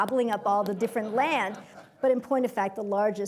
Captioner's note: laughter